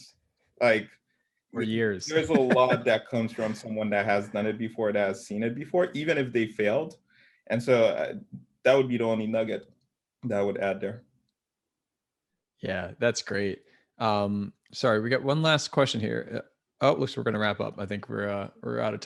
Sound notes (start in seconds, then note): 2.1 laugh